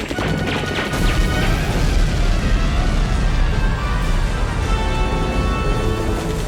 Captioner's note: tense dramatic music; guns bang; booming